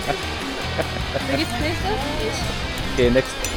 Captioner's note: laugh; speaking German